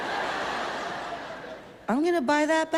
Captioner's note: audience laughs